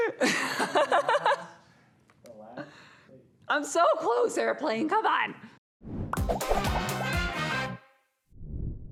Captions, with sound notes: (laughing) - I'm so close, airplane! Come on! (upbeat music)